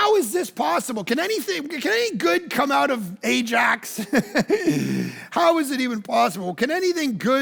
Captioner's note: laughs